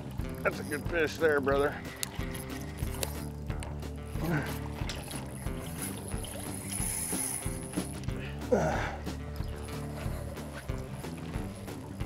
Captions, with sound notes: That's a good fish there brother. [music and drag peeling] [Grunt]